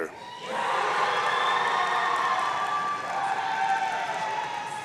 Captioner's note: audience cheering